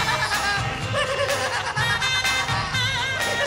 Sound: laughing

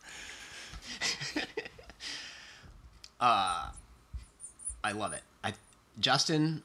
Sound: laughs

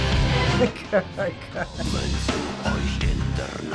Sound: chuckling in disbelief

